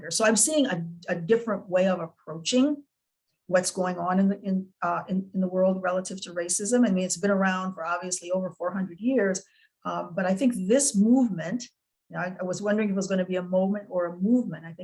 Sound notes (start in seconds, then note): none